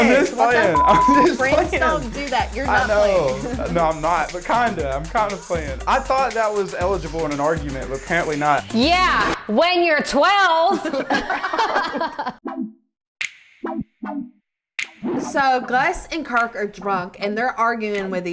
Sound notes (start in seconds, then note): 10.7 all laughing